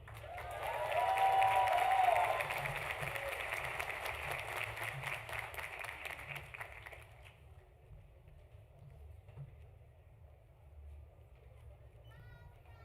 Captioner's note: applause